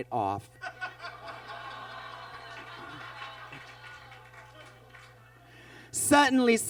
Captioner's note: Bob laughs; audience groans